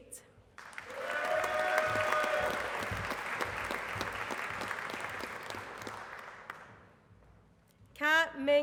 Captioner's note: applause